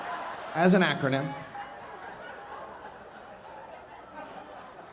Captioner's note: audience laughing